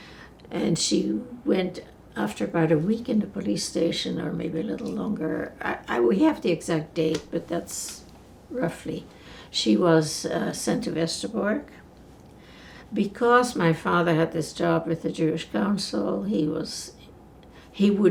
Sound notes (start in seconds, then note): none